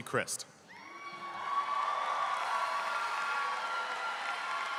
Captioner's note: audience applauding